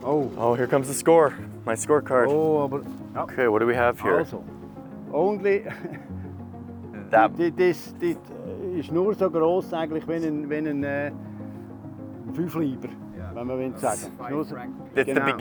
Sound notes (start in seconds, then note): 4.5 speaking foreign language